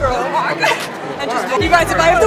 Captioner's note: both Laugh